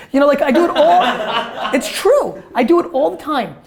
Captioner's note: laughter